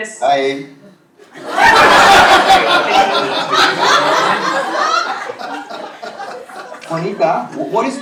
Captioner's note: laugh